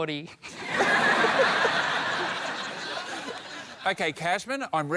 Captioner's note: laughter